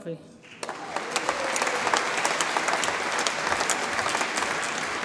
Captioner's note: audience applauds and cheers